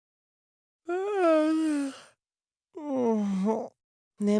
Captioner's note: yawn